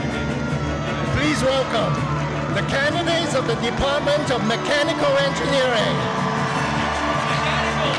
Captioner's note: cheering